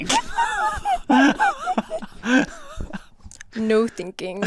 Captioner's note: laughs